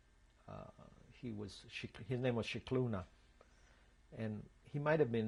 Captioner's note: non-english